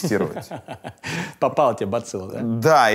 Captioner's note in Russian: смеётся